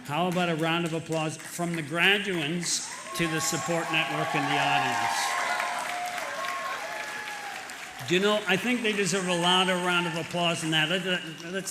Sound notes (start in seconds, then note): 5.7 applause